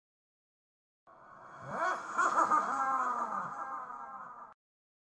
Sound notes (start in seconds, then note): 0.0 laugh